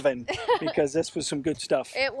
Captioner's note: laughs